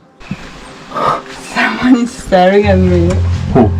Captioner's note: laughing